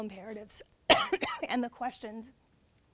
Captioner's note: coughs